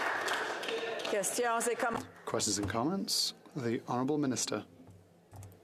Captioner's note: applause